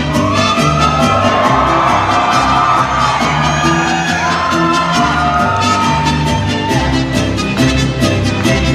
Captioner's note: cheers